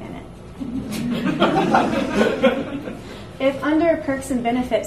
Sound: audience laughs

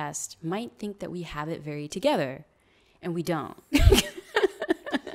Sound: laughs

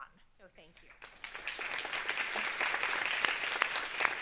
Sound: audience claps

